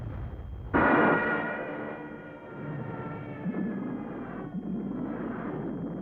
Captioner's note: plane engines roaring